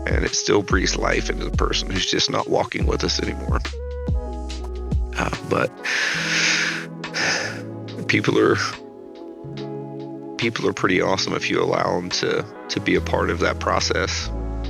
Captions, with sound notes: And it's still brings life into the person who's just not walking with us anymore. But (sighs) people are pretty awesome if you allow 'em to be a part of that process.